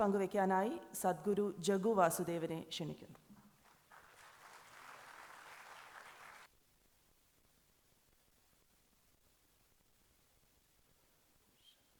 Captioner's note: applause